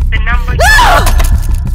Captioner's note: screams